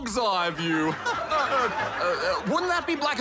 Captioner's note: laughs